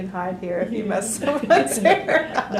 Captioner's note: laughter